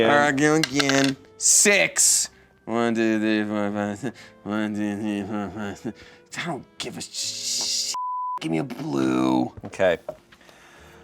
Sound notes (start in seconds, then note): 8.0 beep